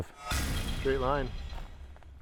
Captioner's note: sharp thudding